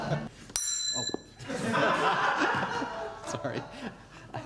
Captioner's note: laughing